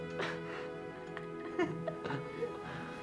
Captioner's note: giggling